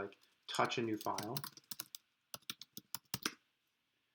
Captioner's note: typing